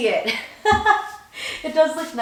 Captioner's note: laughs